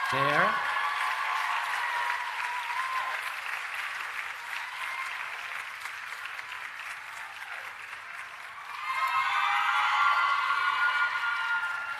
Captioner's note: cheering and Applause